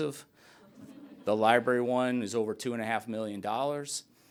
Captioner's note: laughter